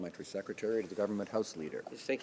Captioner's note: speaking French